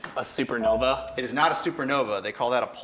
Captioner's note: buzzer chimes